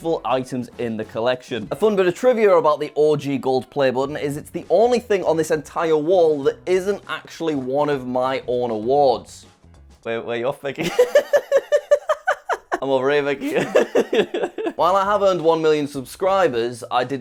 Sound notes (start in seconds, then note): 10.8 hysterical laughs; 14.1 laughs